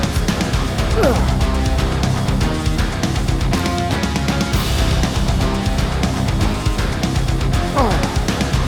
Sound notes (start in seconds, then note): 0.0 grunts